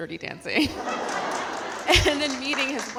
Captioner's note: audience laughing